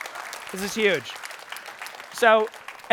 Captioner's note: applause